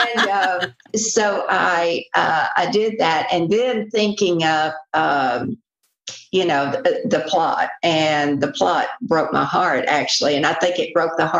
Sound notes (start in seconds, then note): 0.0 laughter